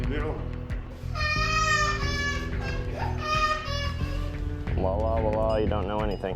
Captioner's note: kid crying